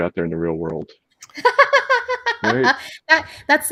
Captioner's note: laughs